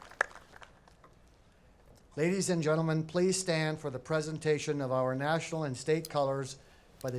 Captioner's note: applause